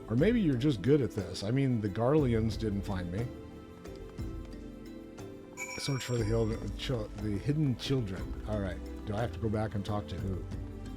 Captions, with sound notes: Or maybe you're just good at this. I mean, the Garleans didn't find me. (bell dings) Search for the hidden children. All right, do I have to go back and talk to who?